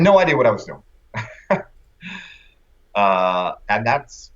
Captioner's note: laughter